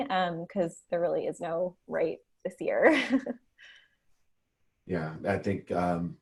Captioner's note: chuckles